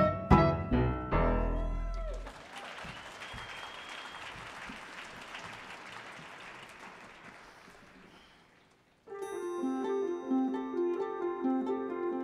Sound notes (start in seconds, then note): 1.5 audience cheers and applauds; 9.1 gentle music